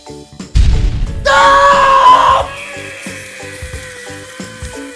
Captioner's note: exploding; yelling